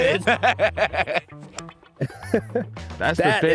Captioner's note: laughing